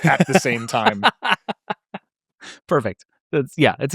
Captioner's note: laughs